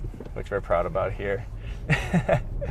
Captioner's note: laughs